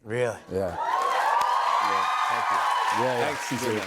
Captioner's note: cheers and applause